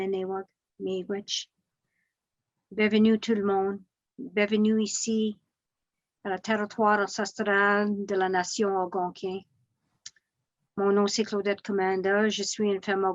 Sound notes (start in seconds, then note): 2.1 speaking in French